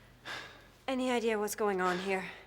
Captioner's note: Jay sighs